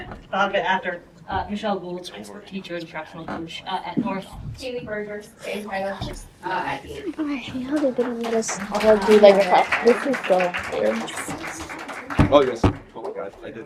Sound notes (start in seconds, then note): 6.5 student whispers; 7.5 audience claps